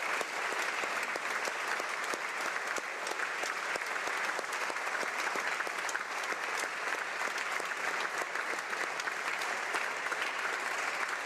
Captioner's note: applause